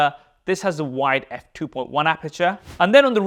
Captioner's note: air whooshes